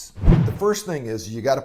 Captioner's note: whoosh